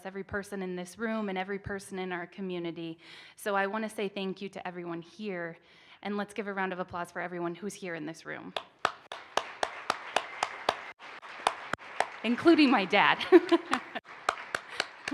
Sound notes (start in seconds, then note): 8.6 participants applaud; 12.9 laughs